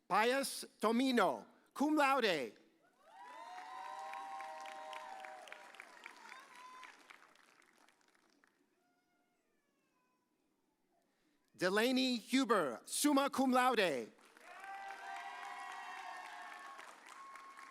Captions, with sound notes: Pius Tomdio, cum laude. (audience cheers) Delaney Huber, summa cum laude. (audience cheers)